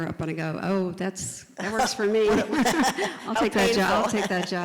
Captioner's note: laugh